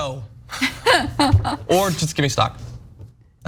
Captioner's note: laugh